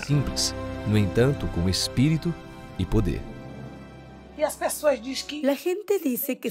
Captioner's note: Hablando otro idioma y música